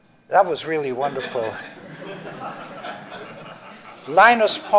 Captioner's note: laughter